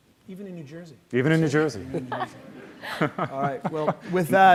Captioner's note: laughs